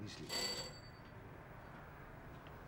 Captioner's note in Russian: Звонок в дверь